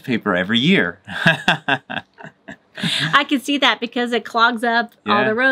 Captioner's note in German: Gelächter